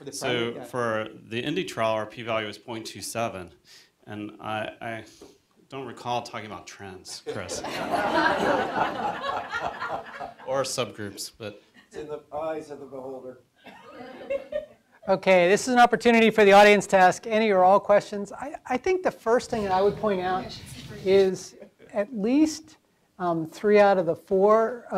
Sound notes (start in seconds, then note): 7.4 audience laughter; 13.7 audience laughter